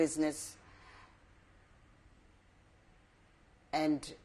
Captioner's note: pauses for 3 seconds